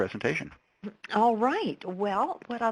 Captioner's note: voiceover